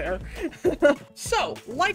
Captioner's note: chuckles